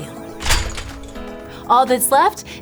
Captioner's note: garlic thuds